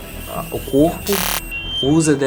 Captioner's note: electronic noise